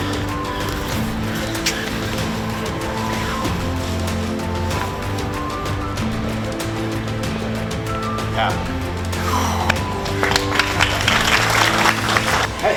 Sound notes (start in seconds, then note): 9.2 exhales; 10.8 audience clapping